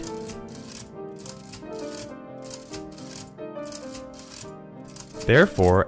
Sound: mechanical ticking

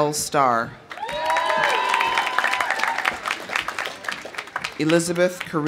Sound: audience applauding; audience cheering

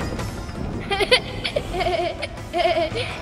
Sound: laughs

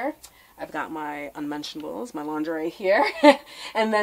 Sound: laughs

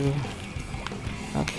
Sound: joystick tap

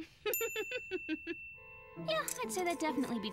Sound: laughs

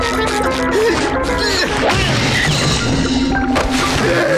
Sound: thudding

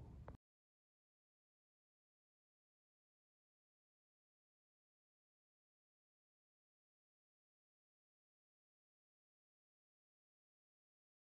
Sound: silence

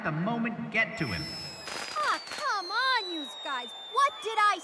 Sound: fireworks whistle

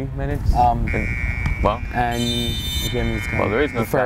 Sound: buzzer ring

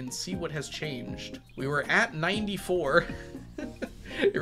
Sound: laughs

